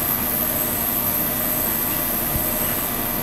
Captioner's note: machine noise